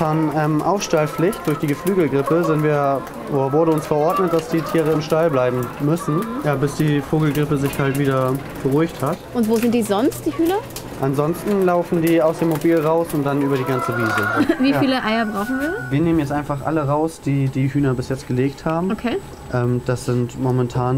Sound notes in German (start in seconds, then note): 14.1 Husten